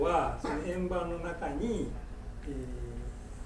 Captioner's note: speaking in foreign language; coughing